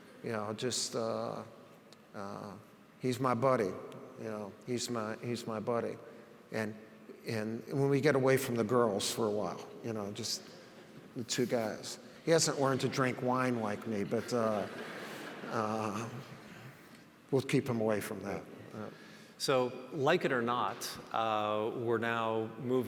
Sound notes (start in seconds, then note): 13.8 audience laughs